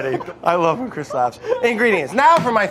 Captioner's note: laughing